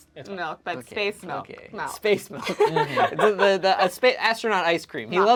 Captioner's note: laughs